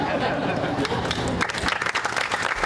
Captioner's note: laughter